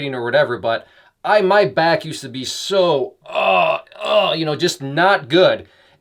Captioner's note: groaning